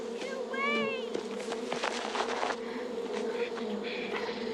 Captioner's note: buzzing; violet whimpering